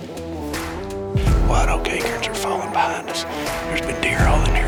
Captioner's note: whispering